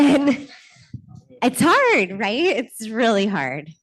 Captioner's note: laughter